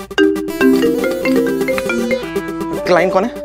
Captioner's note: Cell phone ringing